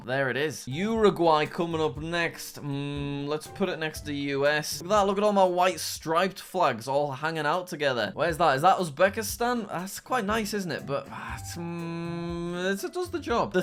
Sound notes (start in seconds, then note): none